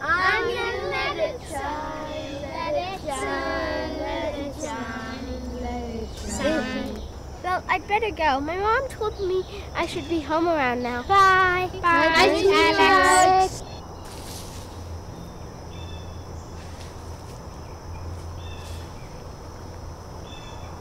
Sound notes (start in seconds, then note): 14.0 grass rustling; 14.2 birds chirping